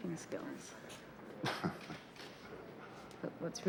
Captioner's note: chuckles